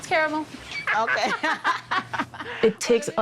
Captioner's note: laughs